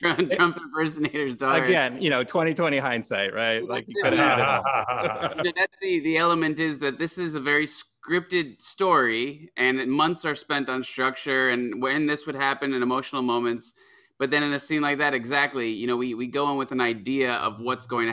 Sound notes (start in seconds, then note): 3.7 laughter